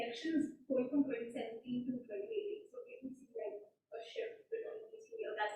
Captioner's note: faintly speaking